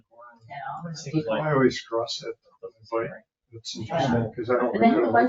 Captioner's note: people chattering